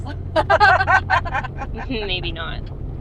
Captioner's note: front seat passengers laughing